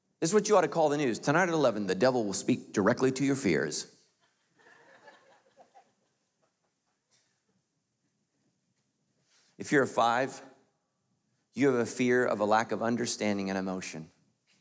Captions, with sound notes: This is what you oughta call the news. Tonight at 11, the devil will speak directly to your fears. (crowd laughs) If you're a five, you have a fear of a lack of understanding and emotion.